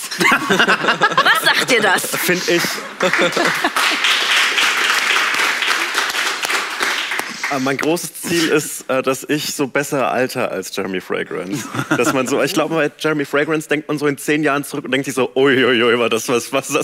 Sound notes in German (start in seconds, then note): 3.8 Applaus